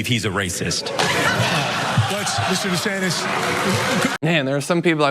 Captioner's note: applause